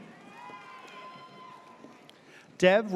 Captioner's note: audience cheers